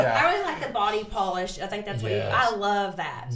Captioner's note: laughs